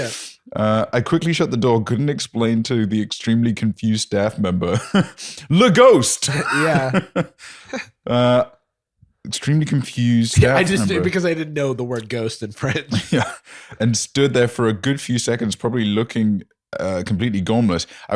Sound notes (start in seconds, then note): 6.2 laughs